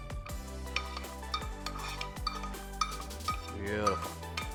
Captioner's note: spoon scrapes